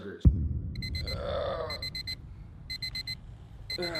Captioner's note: alarm chimes